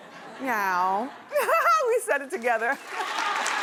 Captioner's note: laughing; laughing